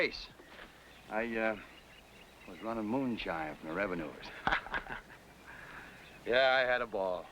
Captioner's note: laughs